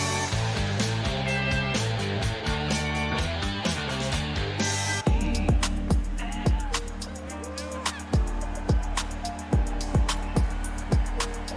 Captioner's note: cheers and applause